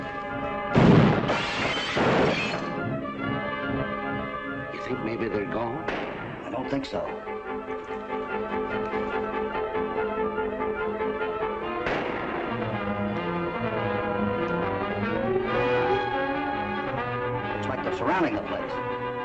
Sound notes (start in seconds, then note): 8.4 frantic music; 11.8 firing